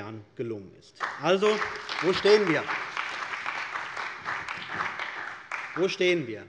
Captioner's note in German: Beifall bei der CDU und dem BÜNDNIS 90/DIE GRÜNEN